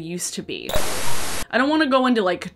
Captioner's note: static crackling